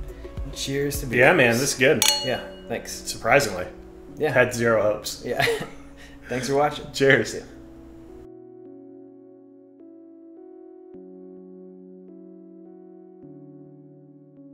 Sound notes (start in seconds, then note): 5.7 laughs